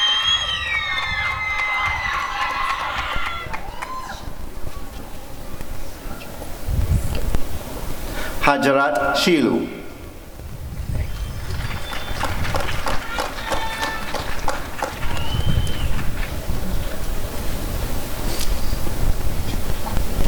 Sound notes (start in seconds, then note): 0.0 applause and cheering; 11.0 applause and cheering